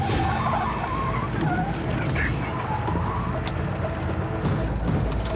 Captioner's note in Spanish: chirrido de las llantas